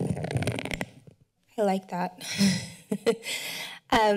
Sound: chuckles

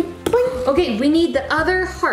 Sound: laughs

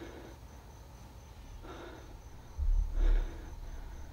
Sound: Andrew exhales

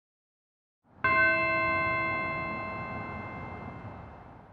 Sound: bells chime

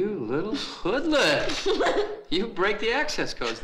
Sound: laughs

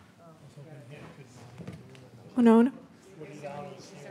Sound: audience murmuring

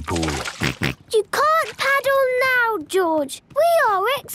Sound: George snorts

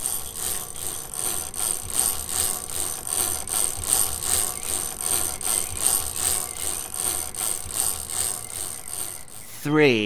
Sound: chain cranking

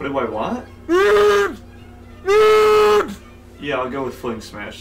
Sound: Target employee grunts

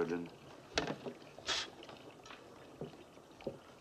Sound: blows

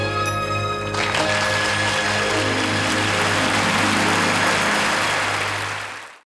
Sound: audience applauding

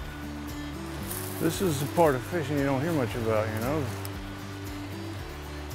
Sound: stream flowing, music continues; fishermen talking; stream flowing, music continues

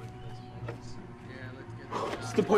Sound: indistinct chatter

